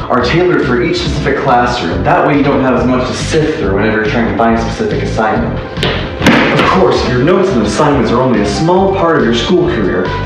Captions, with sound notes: are tailored for each specific Classroom, that way you don't have as much to sift through whenever you're trying to find a specific assignment! *Loud steps* Of course, your notes and assignments are only a SMALL part of your school career!